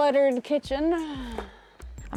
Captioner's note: sighs